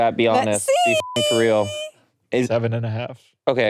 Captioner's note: beeps